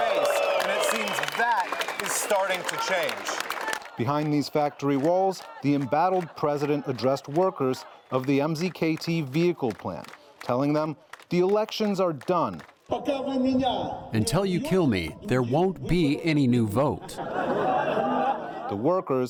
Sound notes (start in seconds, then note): 13.8 through translator; 16.8 laughter